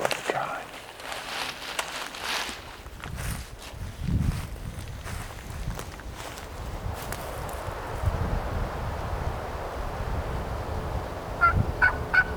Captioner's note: walking